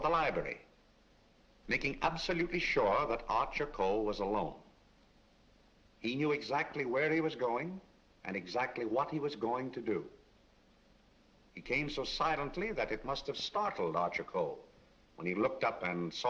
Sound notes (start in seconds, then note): none